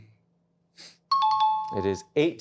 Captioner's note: chime